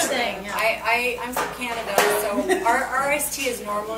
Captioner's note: laughs